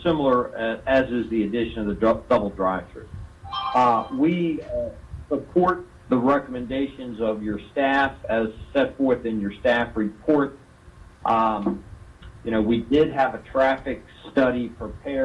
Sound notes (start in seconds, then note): 3.5 phone rings